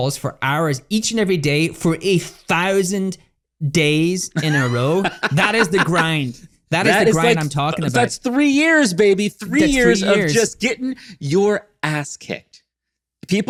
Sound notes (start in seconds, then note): 4.3 laughs